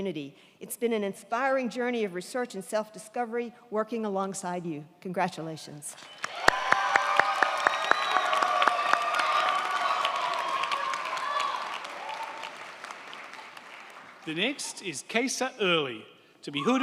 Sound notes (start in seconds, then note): 5.9 crowd cheering; 5.9 crowd clapping